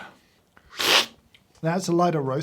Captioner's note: slurping